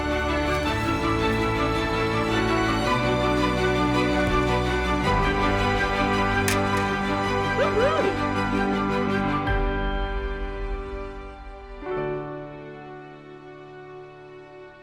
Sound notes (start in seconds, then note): 0.0 motivational music; 6.4 shovels clinking; 8.6 motivational music